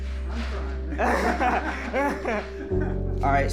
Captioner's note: laughing